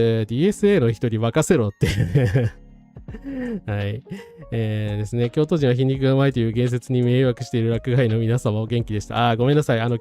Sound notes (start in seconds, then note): 1.9 laughs